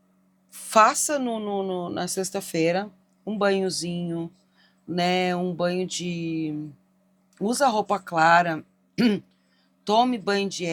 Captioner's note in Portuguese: limpando a garganta